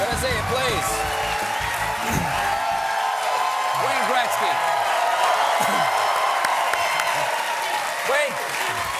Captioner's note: cheers and applause